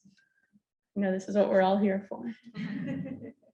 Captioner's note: audience laughs